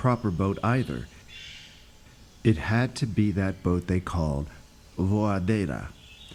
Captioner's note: speaks Portuguese